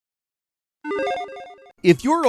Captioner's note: logo chiming